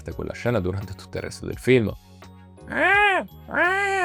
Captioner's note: noise of a tormented and suffering cat